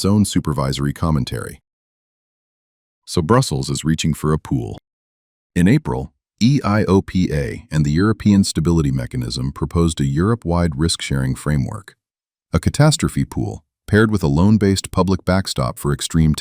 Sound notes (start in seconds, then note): 4.8 beat